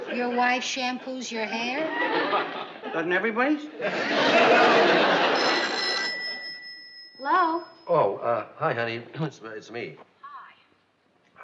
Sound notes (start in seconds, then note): 4.8 phone rings; 10.6 on phone